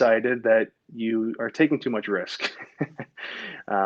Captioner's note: laughs